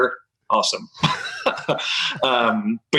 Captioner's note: laughter